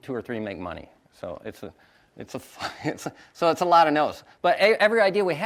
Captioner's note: chuckles